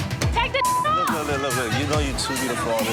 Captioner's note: beep